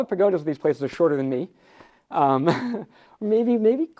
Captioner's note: laughs